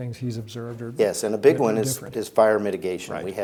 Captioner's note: speaks faintly